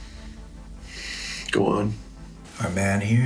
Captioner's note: sighs